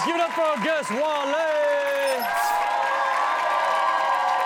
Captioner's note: cheering